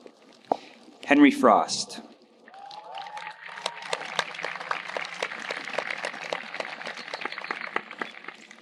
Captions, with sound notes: Henry Frost. (audience applauding)